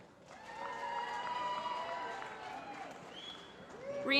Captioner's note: applause